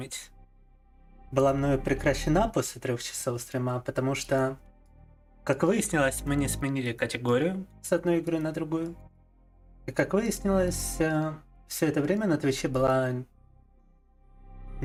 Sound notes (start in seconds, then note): 9.5 speaking in foreign language